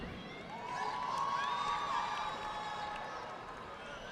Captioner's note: audience clapping